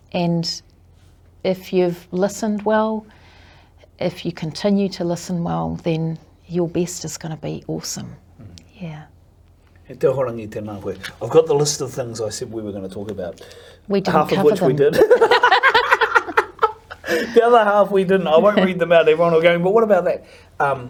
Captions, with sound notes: And if you've listened well, if you continue to listen well then your best is gonna be awesome. Yeah. E te Ahorangi, tēnā koe. - I've got the list of things I said we were gonna talk about. Half of which we did. (both laugh) The other half we didn't. I won't read them out. Everyone will go, but what about that.